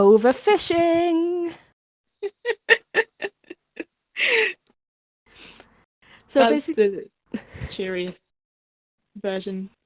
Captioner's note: both laugh